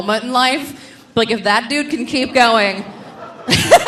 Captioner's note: laughs